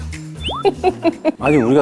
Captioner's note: haha